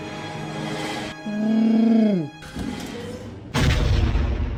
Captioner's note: wookiee noise